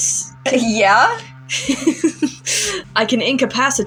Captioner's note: laugh